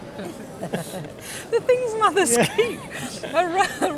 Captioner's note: laughing